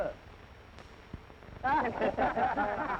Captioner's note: laughter